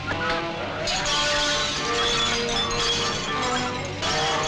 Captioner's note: glass shattering